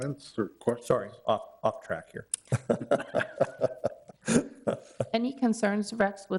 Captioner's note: laughs